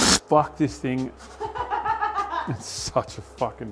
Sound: laughs

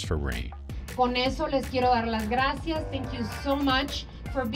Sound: speaking Spanish

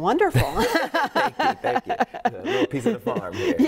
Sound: laughs

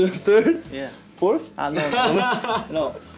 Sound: laughs

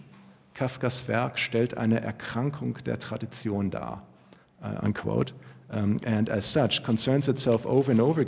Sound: german

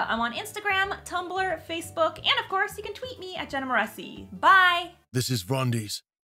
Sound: rumbling Male Voice

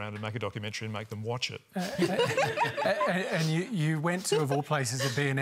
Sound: laughter

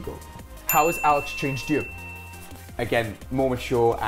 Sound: bell dings

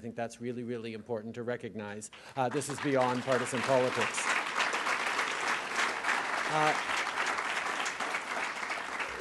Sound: applause

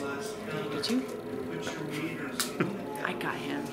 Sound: laughs

